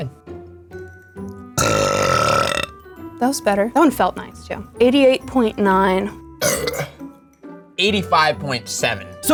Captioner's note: burps